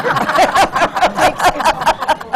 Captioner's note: laughter